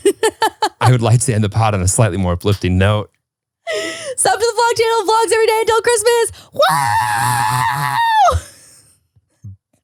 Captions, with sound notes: (laughs) - I would like to end the pod on a slightly more uplifting note. - So good luck to your vlogmas everyday till Christmas. (cheering)